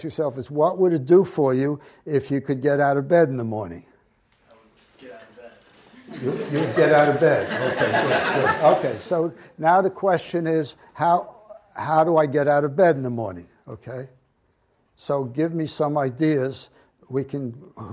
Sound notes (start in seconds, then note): 4.6 voiceover; 5.9 audience laughs